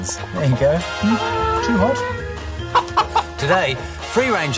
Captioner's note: chicken clucking